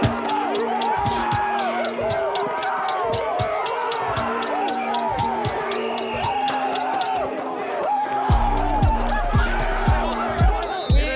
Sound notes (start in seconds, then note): 0.1 crowd cheers; 5.5 whistle blows; 8.1 players shouts